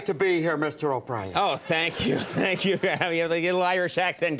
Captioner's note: audience laughs